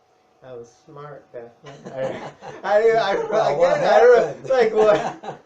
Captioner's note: laughs